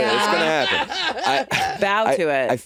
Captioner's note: Jinkx laughing